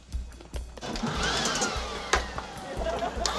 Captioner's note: leaf blower whirrs